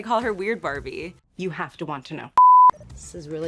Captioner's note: beep